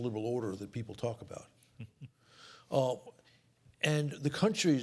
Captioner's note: laughs